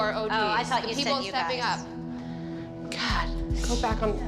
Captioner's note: none